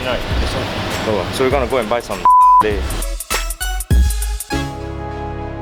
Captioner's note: beep